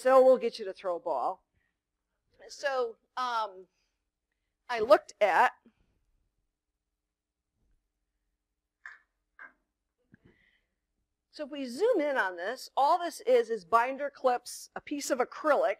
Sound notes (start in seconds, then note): 8.6 click, click